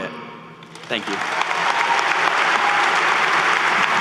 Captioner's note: applause